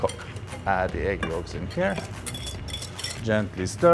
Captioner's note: whisk taps